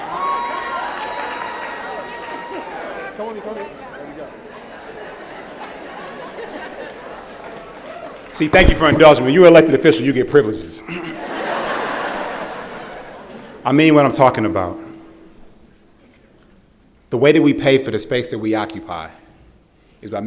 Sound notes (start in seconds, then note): 10.8 laughter